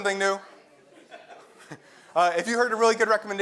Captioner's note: laugh